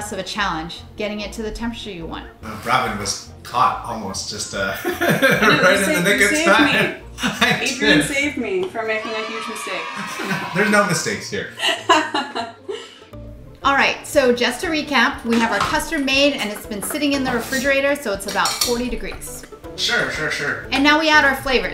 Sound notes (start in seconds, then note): 4.7 laughs; 8.7 kids cheer; 11.5 laughs